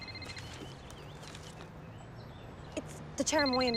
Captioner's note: phone rings